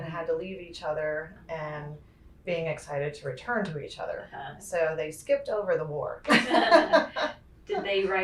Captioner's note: laughter